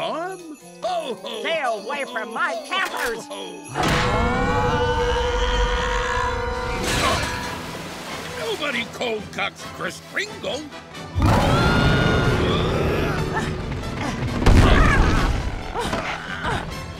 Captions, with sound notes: - Ho, ho, ho! - Stay away from my campers! Nobody cold cocks Kris Kringle! [growling] [grunting]